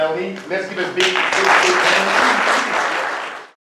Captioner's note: audience clapping